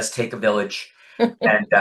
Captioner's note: laughs